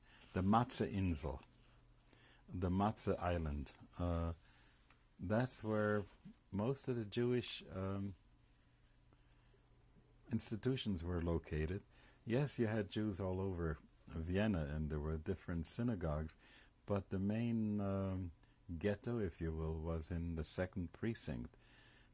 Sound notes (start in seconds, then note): 0.0 pauses for 3 seconds; 8.1 pauses for 3 seconds